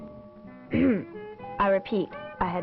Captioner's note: clears throat